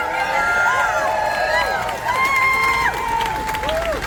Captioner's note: applause